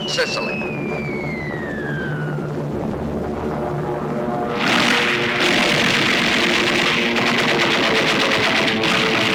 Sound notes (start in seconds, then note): 0.0 bombs whistling; 4.3 aircraft guns firing